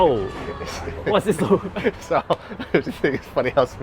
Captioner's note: giggling